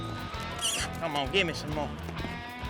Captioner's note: calling